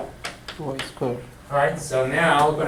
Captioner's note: voiceover